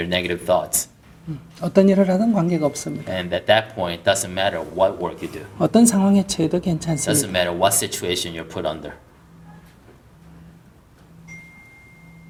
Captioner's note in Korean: 웃음